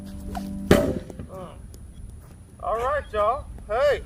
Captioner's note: loud clang